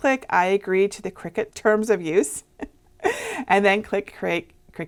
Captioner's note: laughing